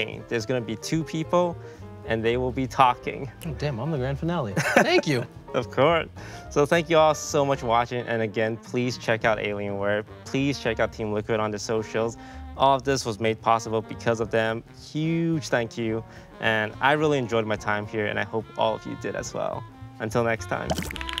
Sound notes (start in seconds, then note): 4.5 Toast chuckles